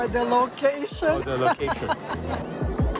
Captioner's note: laughter